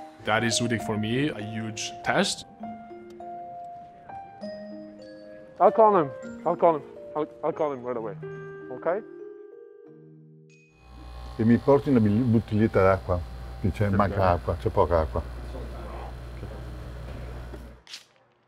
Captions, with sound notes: That is really for me, a huge test. I'll call him, I'll call him. I'll call him right away, okay? - [speaking in foreign language] - [speaking in foreign language]